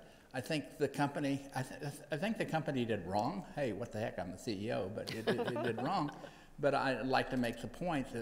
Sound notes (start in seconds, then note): 5.1 panel laughs